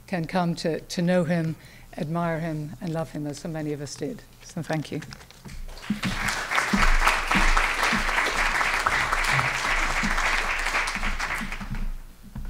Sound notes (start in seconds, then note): 5.6 applause